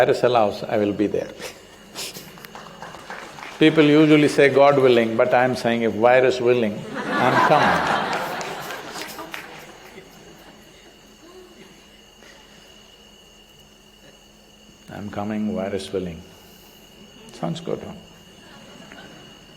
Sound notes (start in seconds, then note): 1.8 laughs; 2.2 applause; 6.8 laughter; 14.8 laughs